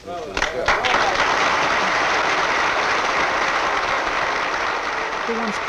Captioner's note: clapping